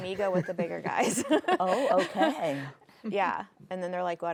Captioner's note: chuckles